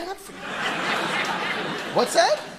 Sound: audience laughing

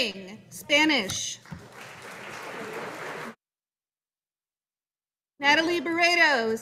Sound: audience applauding

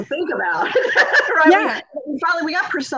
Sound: laughing

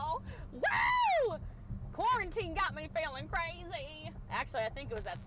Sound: screams

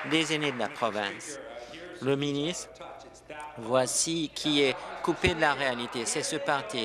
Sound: applause

